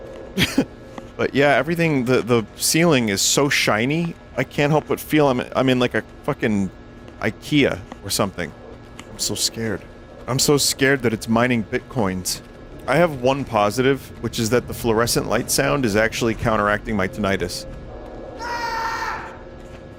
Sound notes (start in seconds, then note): 0.4 laughs; 18.4 player screams